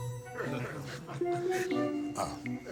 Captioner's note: chuckles